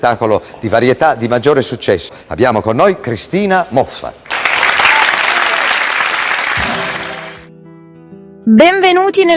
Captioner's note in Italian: applauso